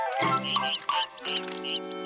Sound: peeping

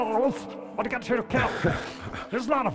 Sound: laughs

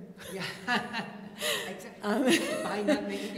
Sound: laughter

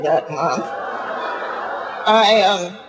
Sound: audience laughing

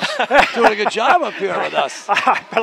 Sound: laughing

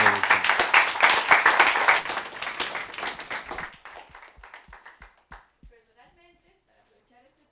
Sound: applause

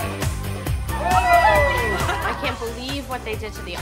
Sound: cheering

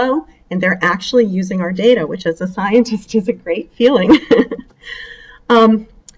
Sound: chuckles

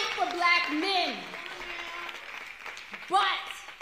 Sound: applause

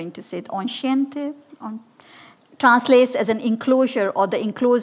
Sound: attempts to speak French

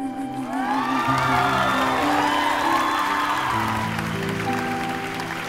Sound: applause

